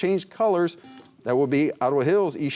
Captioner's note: buzzer